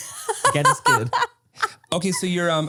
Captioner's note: laughs